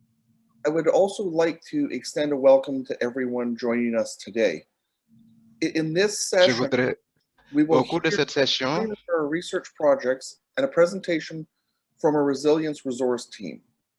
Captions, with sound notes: I would also like to extend a welcome to everyone joining us today. In this session, (speaking in foreign language) a research projects and a presentation from a resilience resource team.